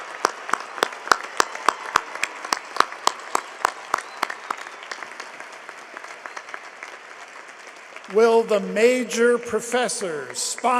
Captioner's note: cheering and applause